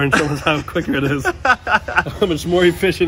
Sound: laughs

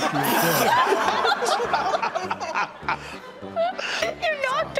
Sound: audience laughing; hosts laughing; laughs

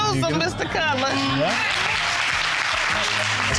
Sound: audience applauds

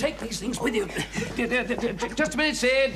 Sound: stammers

